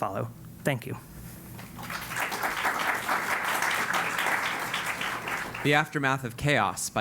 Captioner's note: applause